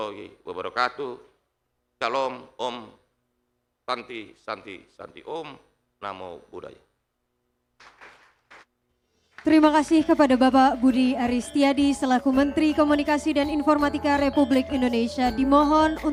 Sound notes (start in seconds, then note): 7.8 applause; 11.0 speaking indonesian